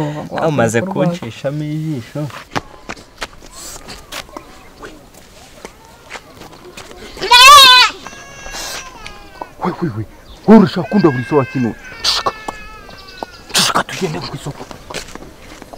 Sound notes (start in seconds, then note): 7.2 goat shouting